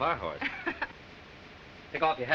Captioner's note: chuckles